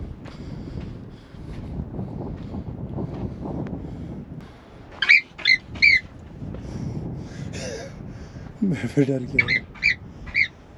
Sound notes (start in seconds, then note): 5.0 sound of marmot